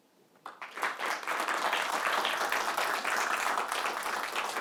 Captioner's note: audience clapping